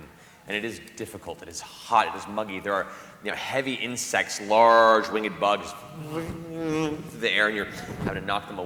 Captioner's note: buzzing